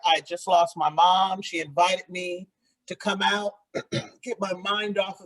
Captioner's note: clears throat